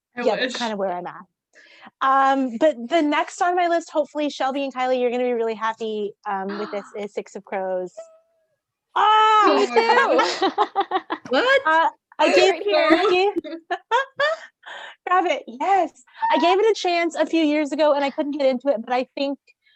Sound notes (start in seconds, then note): 9.6 everyone laughs